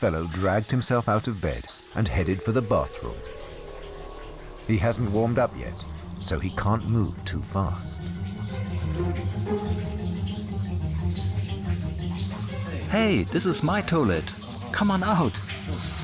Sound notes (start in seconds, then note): 8.4 water trickling; 13.2 in German